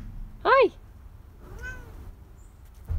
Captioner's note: Kaye meows back; cat meows